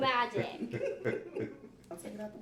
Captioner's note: laughter